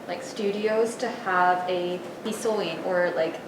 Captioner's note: speaking in Japanese